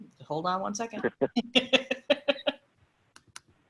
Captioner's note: laughing